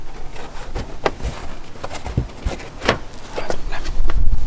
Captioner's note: liner rustles